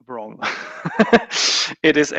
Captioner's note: laughs